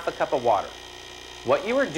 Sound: machine makes buzzing sound

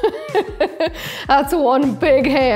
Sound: laughs

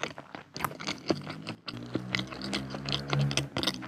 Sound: motorcycle sound ㅠㅠ

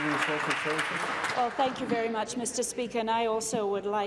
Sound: applause

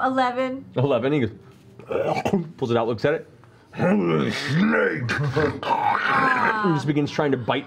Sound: gags

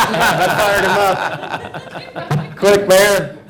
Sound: laughter

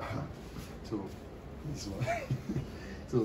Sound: laughs

